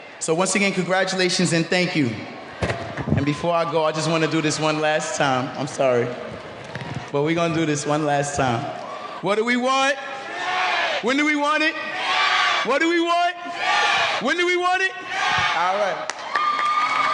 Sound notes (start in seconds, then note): 10.5 speaking off microphone